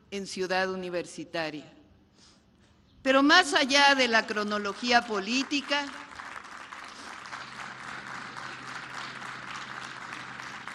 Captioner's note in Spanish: aplausos